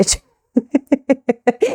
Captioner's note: laughs